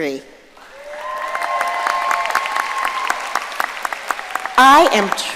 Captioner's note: audience cheering and applauding